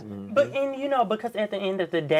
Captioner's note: others murmur in agreement